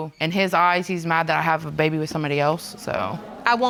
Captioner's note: audience chattering